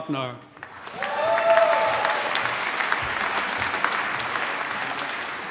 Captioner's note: applause